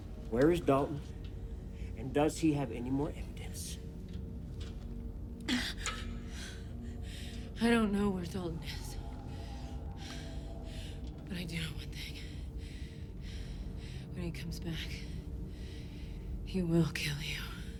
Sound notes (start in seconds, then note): 6.0 pants